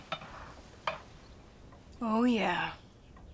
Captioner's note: jar rattling